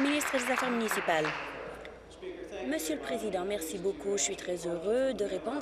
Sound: applause

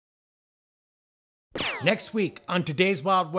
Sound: gun whizzing

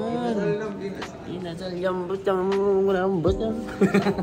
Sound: hungry noises; laughs

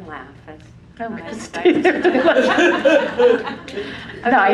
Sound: laugh

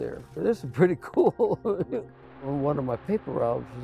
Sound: laughs

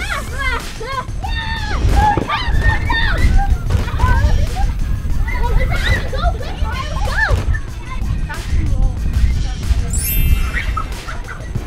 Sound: fun shouting and laughter

